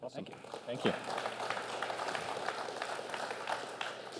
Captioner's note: applause